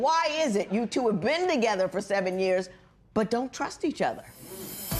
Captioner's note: none